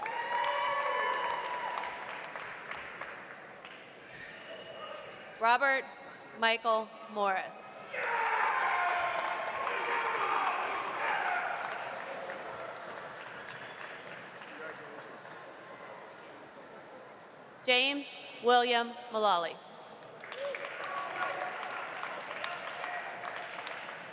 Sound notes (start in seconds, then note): 0.0 audience cheering; 0.0 audience applauding; 7.9 audience cheering; 8.0 audience applauding; 20.1 audience applauding